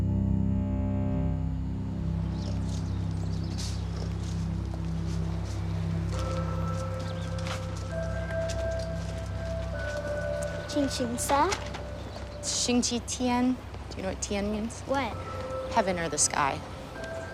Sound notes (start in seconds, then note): 2.3 birds chirping; 2.3 footsteps; 10.4 speaking foreign language; 14.0 foreign language